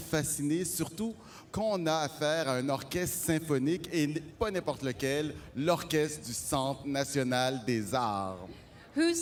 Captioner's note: speaking french